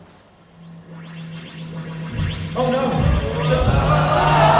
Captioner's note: TARDIS sound effects